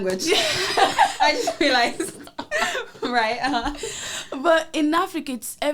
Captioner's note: both laugh